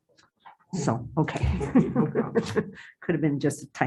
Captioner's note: chuckles